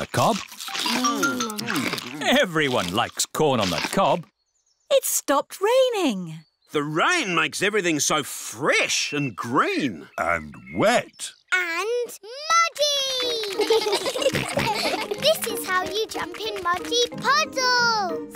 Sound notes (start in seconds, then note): 13.2 children giggle